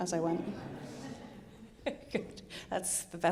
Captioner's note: audience laughing